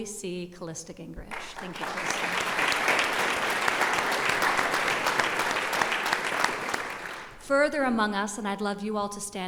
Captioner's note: applause